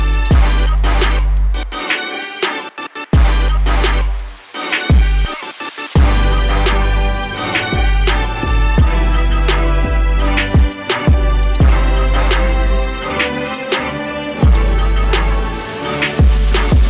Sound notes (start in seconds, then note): none